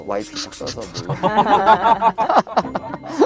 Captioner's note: fake laugh; geniuse laugh